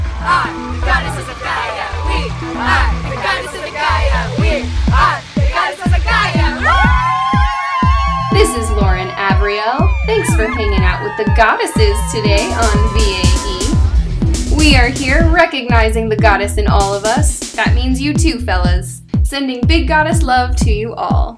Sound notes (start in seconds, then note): 0.1 chanting; 6.2 hollars! Yelps! Hoots!